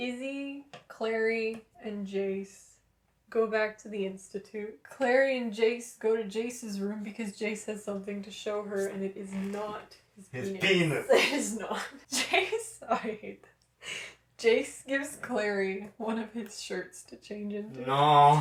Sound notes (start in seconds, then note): 11.0 laughter